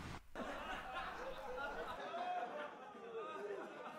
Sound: TV lulling

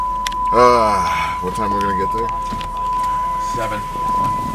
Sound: car door beeping; sighs

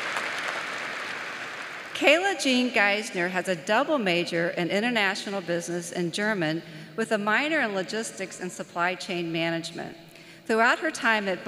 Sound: applause

